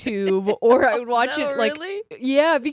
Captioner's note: giggles